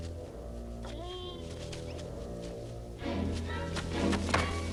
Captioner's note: Beast whines